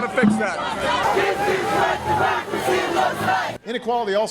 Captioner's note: crowd